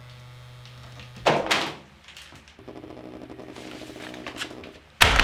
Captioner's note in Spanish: ruidos sordos del teléfono móvil